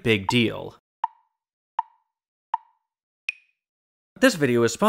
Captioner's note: tick, tick, tick, tick, tock